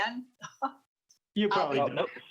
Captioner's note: laughs